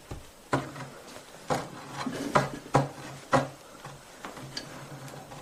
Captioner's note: thuds bump and other threatening noises